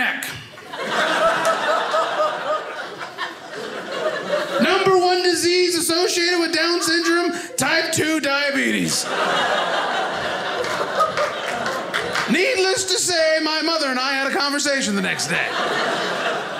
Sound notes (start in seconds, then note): 0.2 audience laughing; 8.9 audience laughing